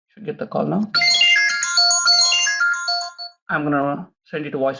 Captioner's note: phone rings